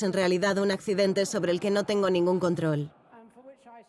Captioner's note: audience laughing